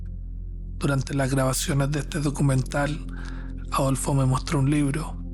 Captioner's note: narrator speaking Spanish